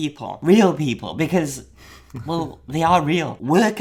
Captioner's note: chuckles